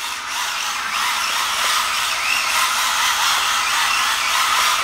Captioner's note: motor whirs rapidly